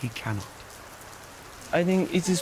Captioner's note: rain pattering